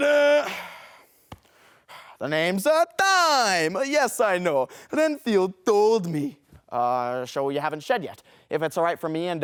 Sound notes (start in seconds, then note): 0.6 breathes